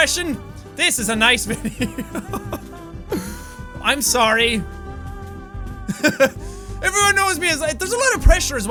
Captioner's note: giggles